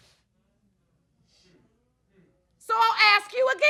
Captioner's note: sniffling